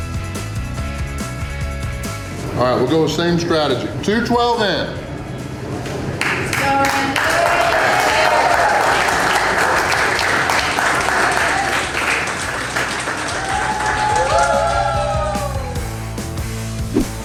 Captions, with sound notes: Alright, we'll go with the same strategy. 2:12 in. [Crowd] Let's go Randy!! (crowd cheering)